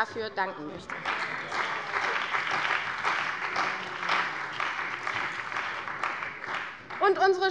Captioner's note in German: Beifall bei der CDU und dem BÜNDNIS 90/DIE GRÜNEN